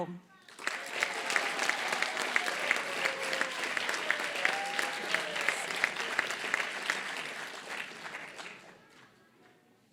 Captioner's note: applause